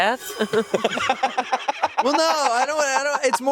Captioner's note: laughs